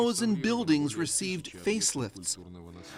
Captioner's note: speaking russian